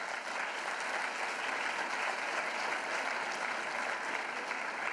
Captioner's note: applause